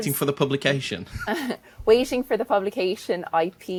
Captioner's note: chuckles